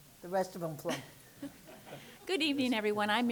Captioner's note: laughter